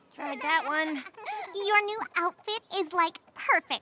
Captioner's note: both giggling